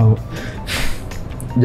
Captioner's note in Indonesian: Menghela nafas